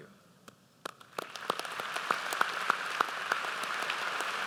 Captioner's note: audience applauds